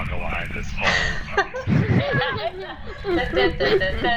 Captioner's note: laughter; humming the beat of conga line music